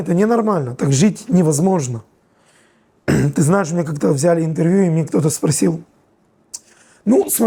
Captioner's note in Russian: откашливается